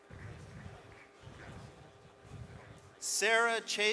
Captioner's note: none